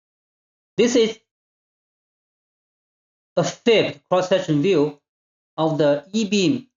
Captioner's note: long pause